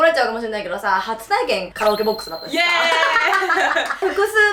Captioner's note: laughs